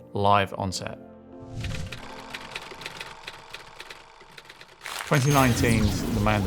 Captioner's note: film reel clicking